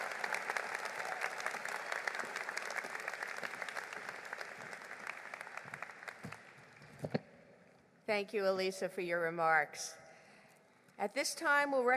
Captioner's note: applause